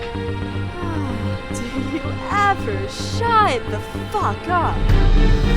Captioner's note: sighing